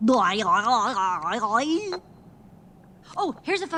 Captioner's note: makes silly sounds